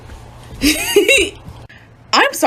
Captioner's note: giggles